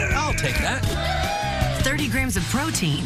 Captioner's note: cheers